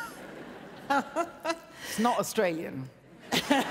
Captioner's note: laughs